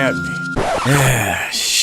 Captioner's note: sigh